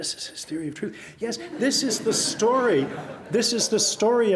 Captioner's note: audience laughs